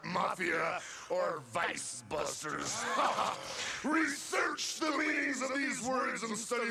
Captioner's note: laughs